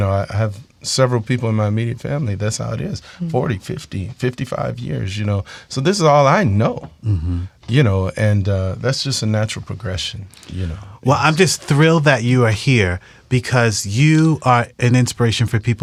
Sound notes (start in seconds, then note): none